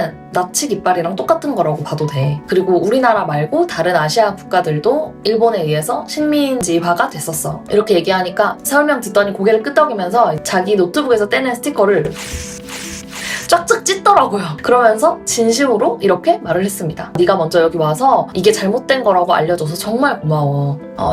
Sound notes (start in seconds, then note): 12.0 scratch, scratch, scratch